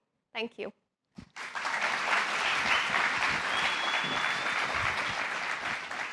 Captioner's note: applause